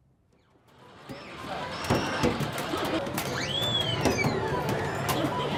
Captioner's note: children laugh, squeal